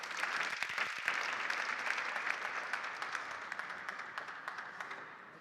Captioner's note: applause